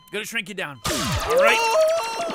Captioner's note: sci fi sounds